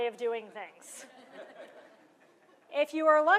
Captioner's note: laughter